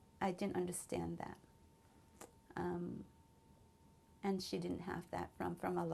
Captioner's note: pauses for 3 seconds